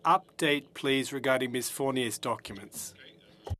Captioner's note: speaking French